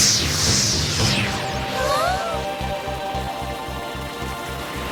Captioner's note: gasps